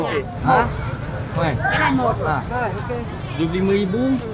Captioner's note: speaking Vietnamese